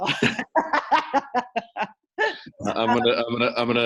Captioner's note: laughs